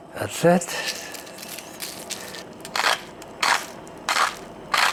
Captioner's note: grinding pepper